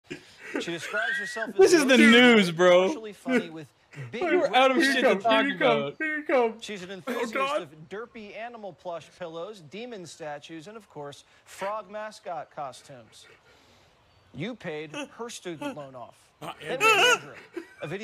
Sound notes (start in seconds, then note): 0.0 laughs; 16.4 yelps; 16.4 whimpers